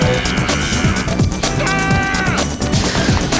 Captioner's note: laser fire; screaming